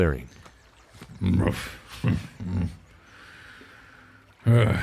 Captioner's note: grunt